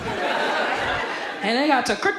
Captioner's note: audience laughs